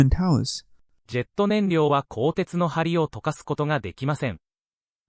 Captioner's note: japanese